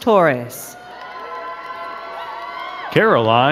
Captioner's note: crowd cheering and clapping